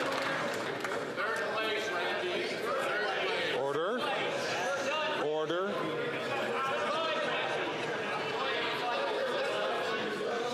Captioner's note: some Applause